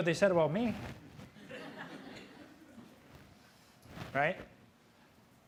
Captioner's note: audience laughing